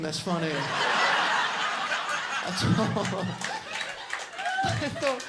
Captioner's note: audience laughing and clapping